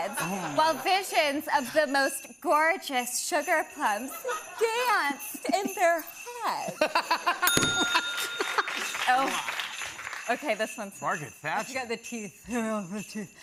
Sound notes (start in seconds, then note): 7.1 laughing; 7.3 bell dings; 8.7 normal voice